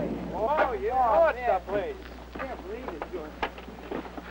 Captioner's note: boys chattering